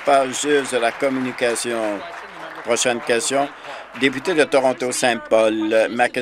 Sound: applause

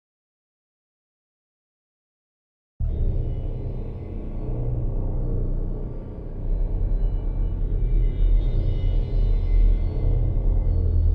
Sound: sound of dark ghost house

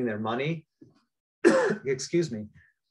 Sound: coughs

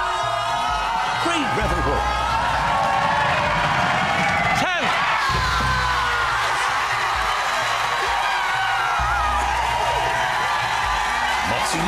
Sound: cue more hugging, screaming and exuberance

